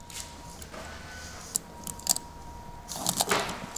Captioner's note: distant machine noises